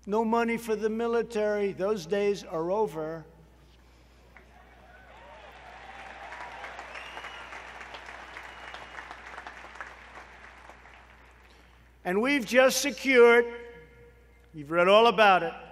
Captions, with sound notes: No money for the military? Those days are over. (Applause.) And we have just secured -- you've read all about it --